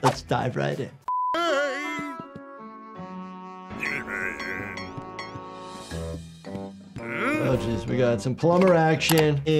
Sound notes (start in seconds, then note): 1.3 Pop yelling; 3.8 Pop grunting; 5.9 low pensive music